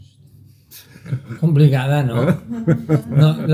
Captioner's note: laughs